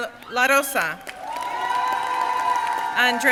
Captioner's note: crowd cheering and applauding